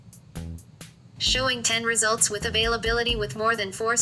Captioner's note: voiceover